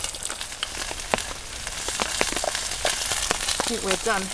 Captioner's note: sizzle